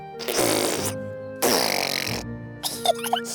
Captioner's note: sputtering; both giggling